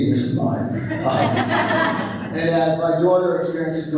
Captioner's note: laughing